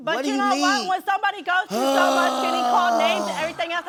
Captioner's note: groans